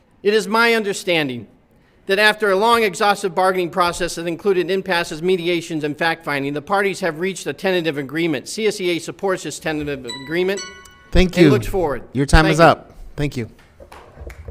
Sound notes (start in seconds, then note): 10.0 timer chimes